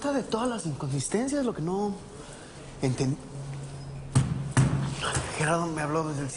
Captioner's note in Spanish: Puñetazos